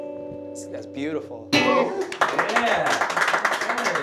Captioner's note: applause